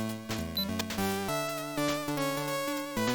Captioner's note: click click